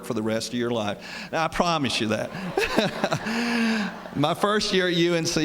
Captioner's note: laughter